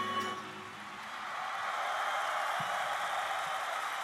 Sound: cheers and applause

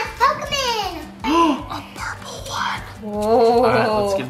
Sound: dad gasps

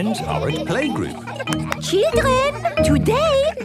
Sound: clapping

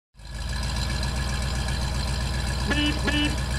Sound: engine sound; beep beep

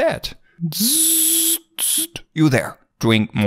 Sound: vocalizes

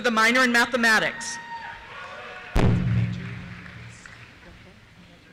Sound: cheers

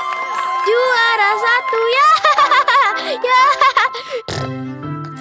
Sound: laughing

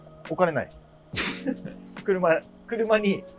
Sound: laughing

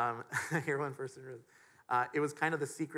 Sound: chuckles

